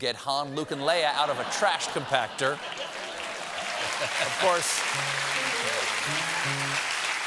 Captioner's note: applause